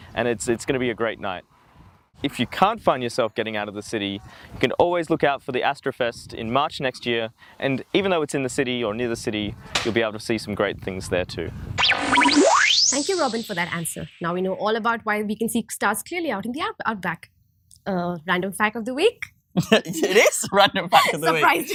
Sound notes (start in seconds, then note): 11.8 choppy, futuristic sound; 19.6 laughing; 19.6 laughs